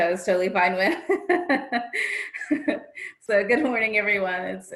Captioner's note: chuckles